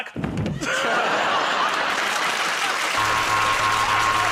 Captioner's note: thud; laughter and applause; buzzer